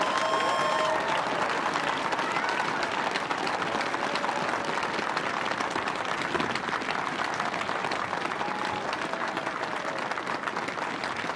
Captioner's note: cheers and applause